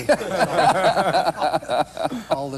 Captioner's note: laughter